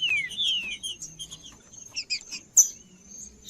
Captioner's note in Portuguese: trinca ferro cantando